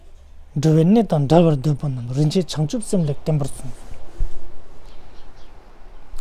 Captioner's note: tibetan